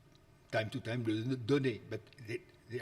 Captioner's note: speaks foreign language